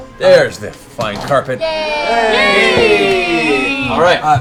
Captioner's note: cheering